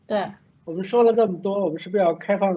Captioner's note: Mandarin